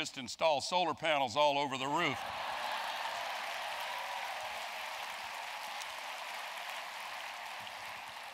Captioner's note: applause